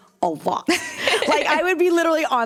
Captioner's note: laughter